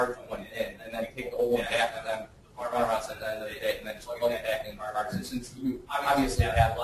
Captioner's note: distorted speech